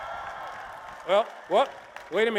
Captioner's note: applause and cheers